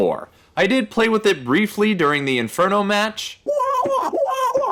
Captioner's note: Mario wah wah